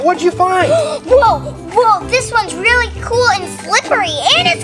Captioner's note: gasps